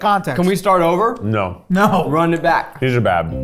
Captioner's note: chuckling